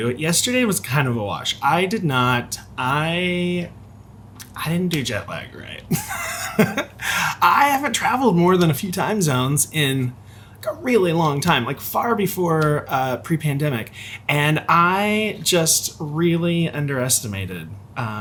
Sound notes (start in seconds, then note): 5.9 laughs